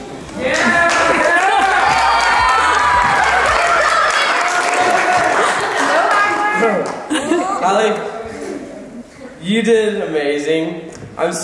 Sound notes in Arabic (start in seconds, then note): 0.3 الضيوف يهتفون ويصفقون